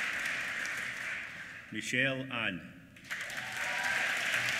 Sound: applause

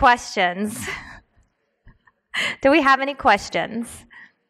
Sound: laughs

